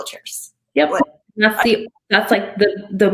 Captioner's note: audio distorting